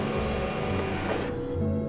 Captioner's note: machine whirring; thud